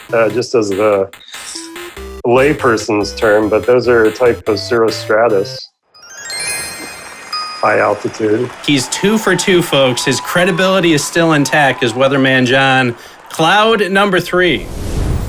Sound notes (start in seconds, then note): 6.0 correct happy sound